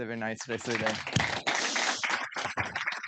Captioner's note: audience applauding